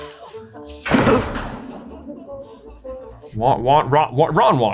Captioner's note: thud